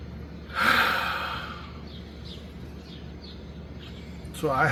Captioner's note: heavy sigh